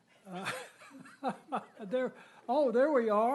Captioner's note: laughter